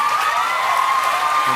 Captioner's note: cheers and applause